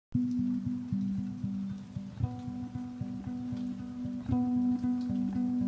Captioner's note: gentle music; rain pouring